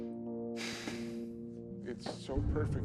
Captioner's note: Kenny sighs